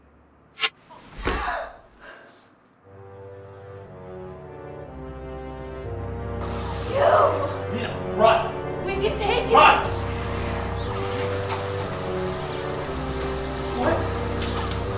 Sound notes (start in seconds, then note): 0.6 whoosh; 0.9 gasps; 6.4 Lightsaber ignites; 10.2 lightsabers crashing